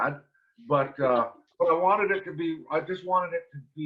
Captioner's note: giggles